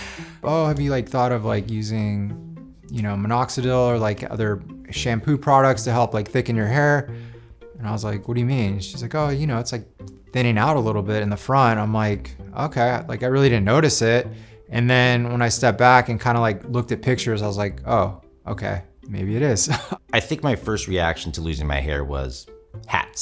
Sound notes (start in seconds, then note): 19.7 laughs